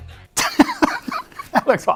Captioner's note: laughter